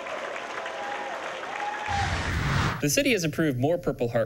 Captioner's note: cheers and applause